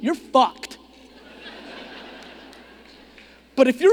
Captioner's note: audience laughing